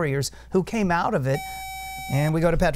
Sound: buzzer

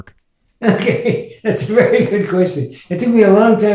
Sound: laughs

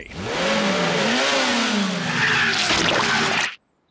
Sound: revs engine

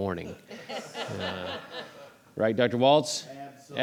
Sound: audience laughs

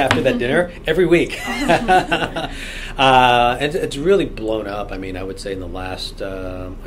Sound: all laugh

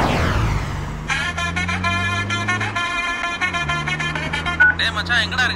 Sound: phone ringing

